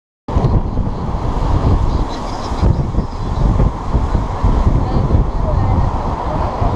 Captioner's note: wind howling